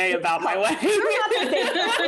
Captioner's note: laughing